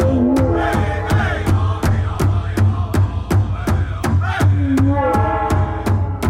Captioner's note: drum beating; voices chanting